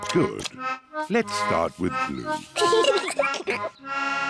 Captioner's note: both giggle